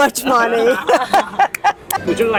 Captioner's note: laughs in exploitation